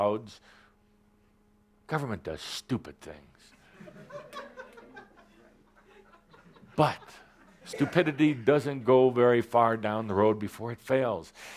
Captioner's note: laughter